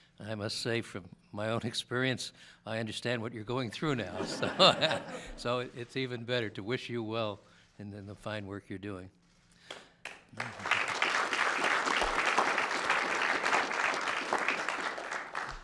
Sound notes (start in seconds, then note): 4.0 laughter; 10.0 applause